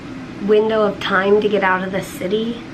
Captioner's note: none